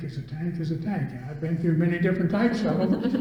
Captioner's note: all laugh